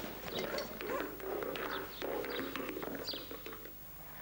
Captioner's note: hat rolling; dogs barking